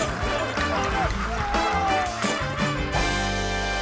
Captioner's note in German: Schrei